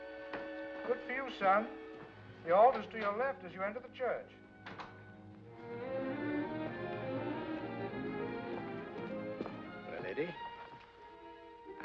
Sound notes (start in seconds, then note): 4.6 door closes; 5.4 dramatic sentimental music